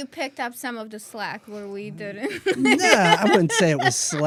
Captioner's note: laughter